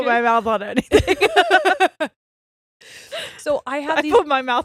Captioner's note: all laughing